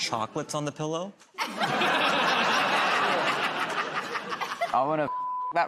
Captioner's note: laughter